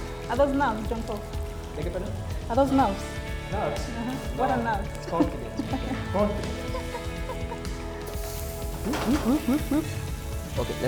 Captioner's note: background chatter